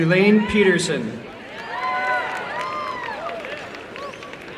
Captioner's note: applause